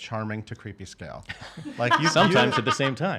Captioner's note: laughing